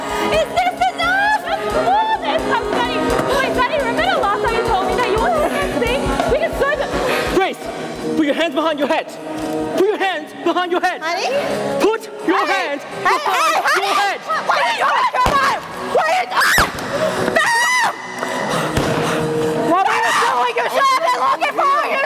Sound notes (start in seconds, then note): 15.3 Opal screams; 16.6 gunshot, then another; 18.7 gunshot